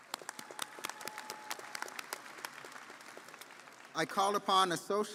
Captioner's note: audience applauding